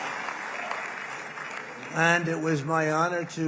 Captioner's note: applause